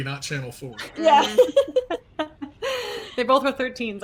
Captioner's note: laughs